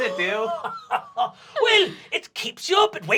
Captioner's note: laughing